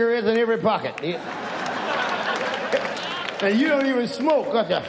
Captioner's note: audience laughs